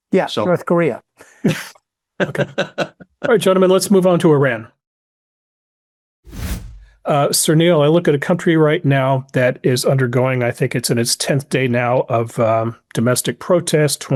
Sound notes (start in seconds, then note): 2.2 H. R. laughs; 2.2 laughs; 6.2 screen whooshes